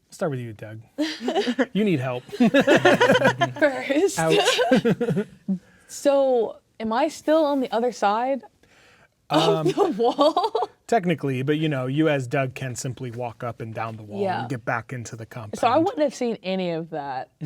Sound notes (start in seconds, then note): 1.0 players laughing; 2.0 laughing; 2.0 laughs